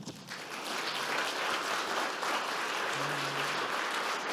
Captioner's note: audience clapping